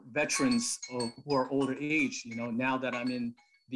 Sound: phone ringing

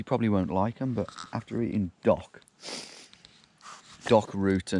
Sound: chuckling

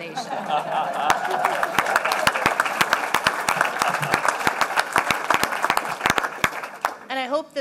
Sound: laughter and applause

